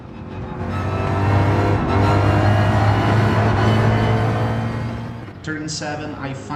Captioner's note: engines revving, cars noises